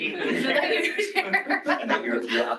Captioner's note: laughter